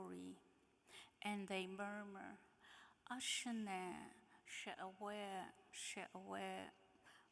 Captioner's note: speaking in foreign language